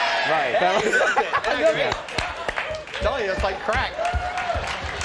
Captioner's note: audience yelling "Timmy"; both laughing